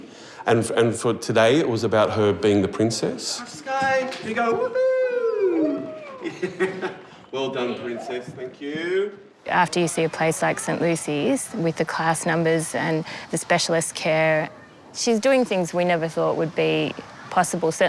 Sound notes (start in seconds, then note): 4.6 laughs